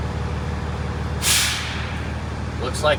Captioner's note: air releasing